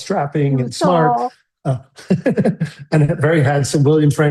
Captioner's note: laughs